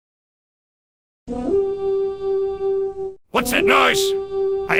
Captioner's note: the soud of horns can be heard 4 times